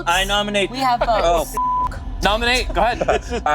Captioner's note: beep